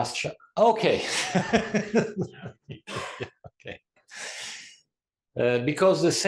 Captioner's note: laugh